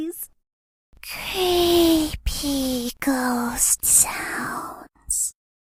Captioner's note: creepy ghost sounds